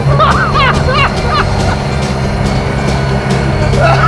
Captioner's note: both laughing